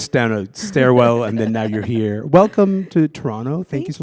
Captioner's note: laughter